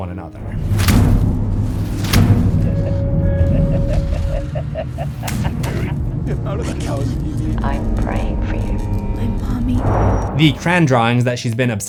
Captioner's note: booms and laughing